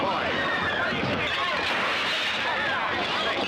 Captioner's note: crashing